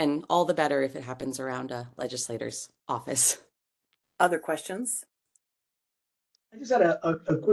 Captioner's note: laugh